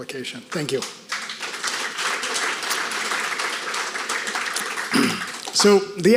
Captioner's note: audience applauding